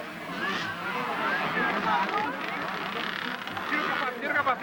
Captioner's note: motorcycle engine